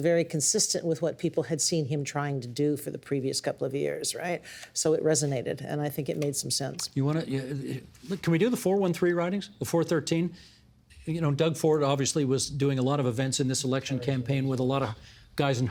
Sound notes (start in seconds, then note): none